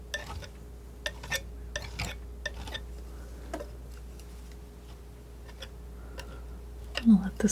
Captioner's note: scraping